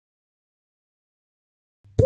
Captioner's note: water drip